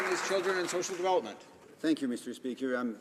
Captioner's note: some Applause